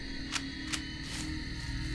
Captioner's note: gun cocks